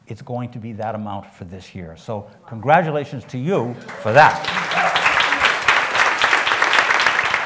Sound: applause

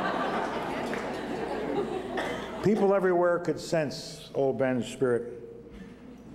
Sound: laughter

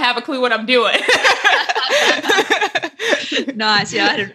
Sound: laughing

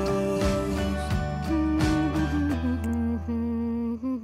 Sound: humming

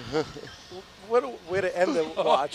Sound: all laugh

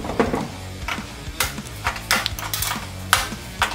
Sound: snaps

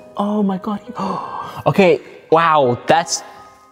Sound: gasps

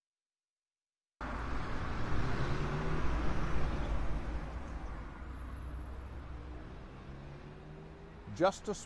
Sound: traffic sounds

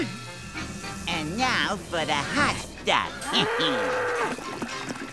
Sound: chuckling

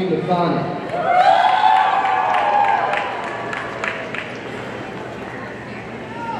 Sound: audience cheering and applauding

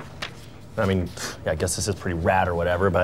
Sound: scoffing

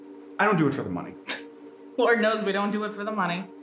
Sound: Pam scoffs

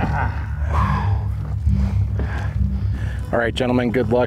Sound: labored breathing

